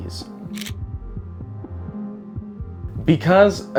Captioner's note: camera clicking